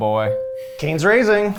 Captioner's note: bell ringing